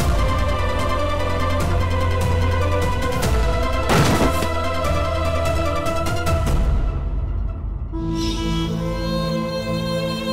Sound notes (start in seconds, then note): 3.8 thud; 7.7 sentimental music playing